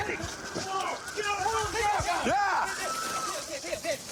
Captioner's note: shouting